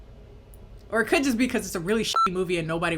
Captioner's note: beep